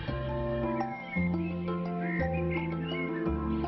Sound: birds tweeting

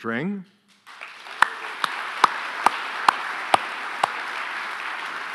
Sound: audience applauding

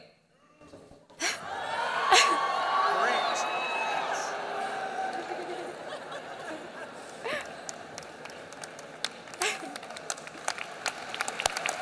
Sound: shouting

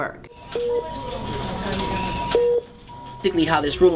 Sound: beeping

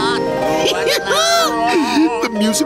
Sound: giggling

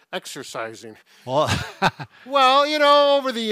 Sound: laughs

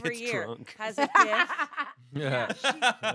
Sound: laughs

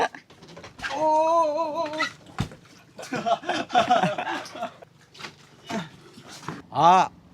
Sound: laughs

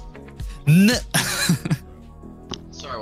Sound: laughs

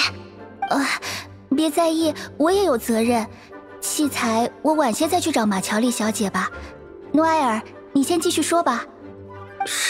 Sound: sigh

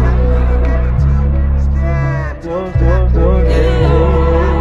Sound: echoes

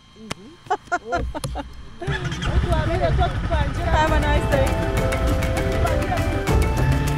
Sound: laughing

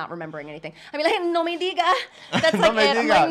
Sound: foreign language

